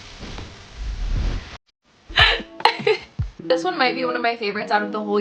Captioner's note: giggles